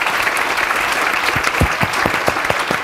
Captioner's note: applause